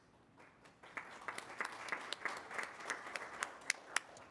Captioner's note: applause